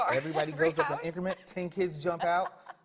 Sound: laughs

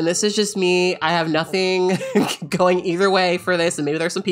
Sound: laughing

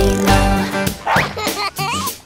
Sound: dog barks; child laughs

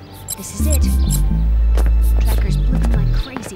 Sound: beeping

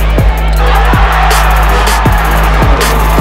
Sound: cheers

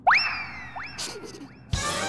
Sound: laughs

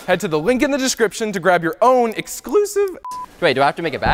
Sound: beep

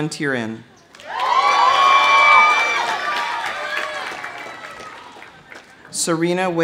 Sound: audience cheering; audience applauding

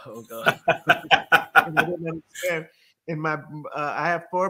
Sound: laughing

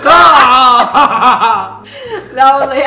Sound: laughter

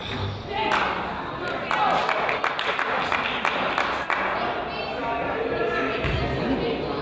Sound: crowd applauds

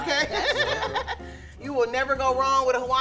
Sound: laughing

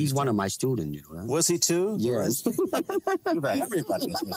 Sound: laughs

